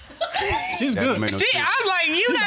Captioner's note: laughing